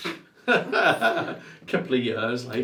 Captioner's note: both laughing